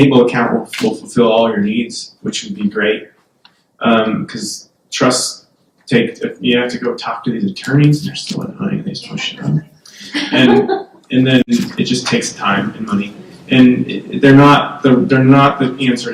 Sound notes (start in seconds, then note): 9.9 background laughter